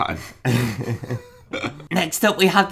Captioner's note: laughing